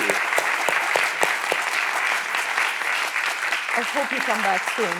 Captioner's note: audience applauding